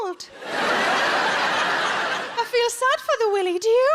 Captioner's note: audience laughs